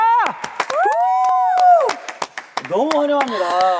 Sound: claps

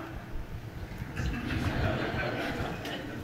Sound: laughter from the audience

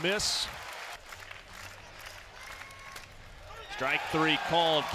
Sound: clapping

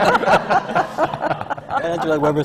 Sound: laughter

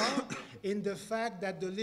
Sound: cough

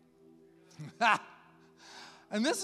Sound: laughs

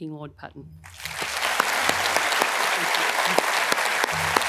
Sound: appllause

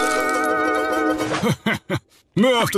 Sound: laughter

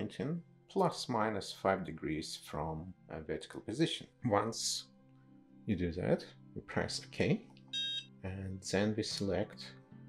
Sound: DSC emits a short beep

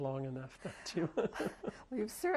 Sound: laughs

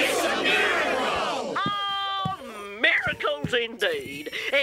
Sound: grunting

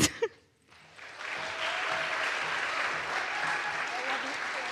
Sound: audience applauds

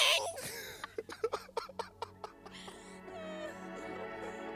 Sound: Connie and Tristan laugh

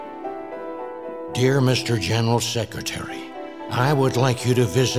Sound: reagan voice speaking

